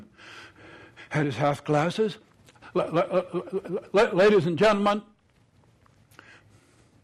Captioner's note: breathing heavily